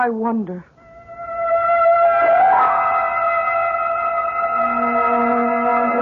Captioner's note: sirens